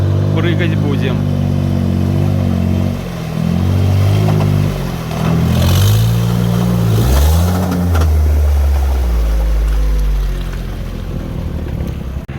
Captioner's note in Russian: Звук мотора